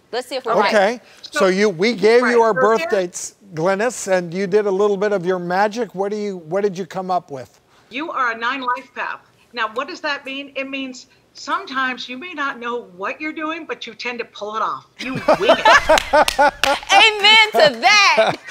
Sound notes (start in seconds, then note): 15.0 doctors laughing; 15.9 clapping